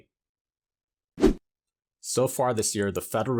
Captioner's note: graphics whooshing